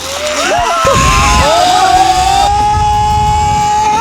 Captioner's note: screaming